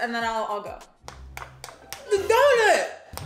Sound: knocking

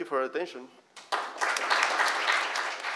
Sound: applause

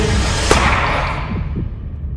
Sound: gunshot; through phone

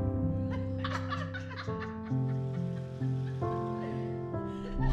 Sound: women laughing

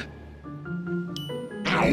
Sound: bell dings

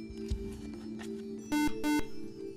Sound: buzzer

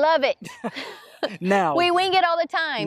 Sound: both chuckles

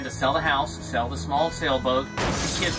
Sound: smashing

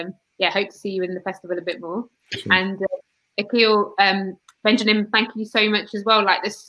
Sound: erm

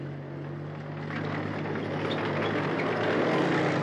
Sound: whirring approaches

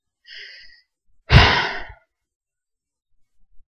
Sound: sigh

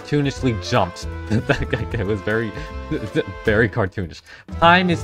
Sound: laughs

